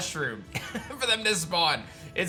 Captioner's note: chuckles